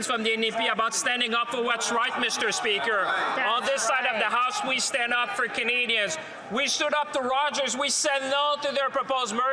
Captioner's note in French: voix de l'interprète